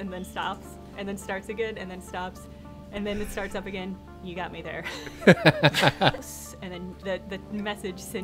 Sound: laughter

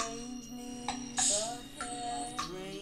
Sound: hiss

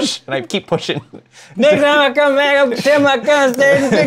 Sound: fast slurred Southern drawl babbling

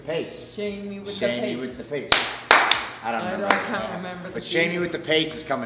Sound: applause

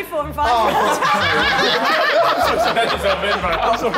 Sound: women laughing

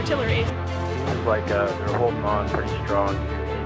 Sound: voiceover

